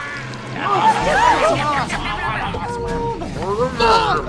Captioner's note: all yelling